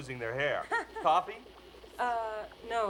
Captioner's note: laughs